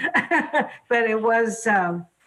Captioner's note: laughs